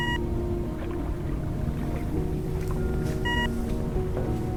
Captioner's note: system beeping